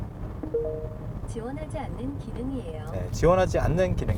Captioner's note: digital sound: Requested feature not supported